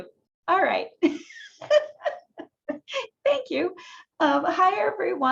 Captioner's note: laughing